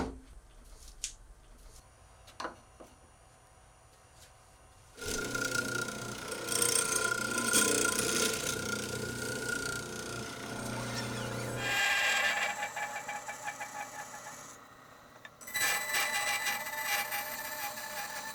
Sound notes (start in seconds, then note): 0.1 table thudding; 5.3 drill press whirring; 12.2 saw buzzing